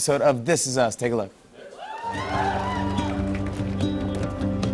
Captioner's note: audience cheering